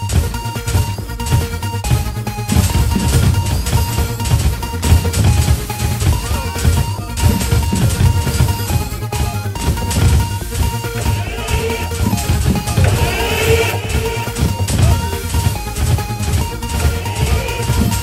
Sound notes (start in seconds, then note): 10.9 siren blaring